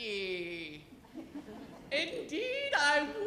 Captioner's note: audience laughs